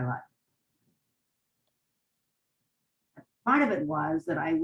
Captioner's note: pauses for 3 seconds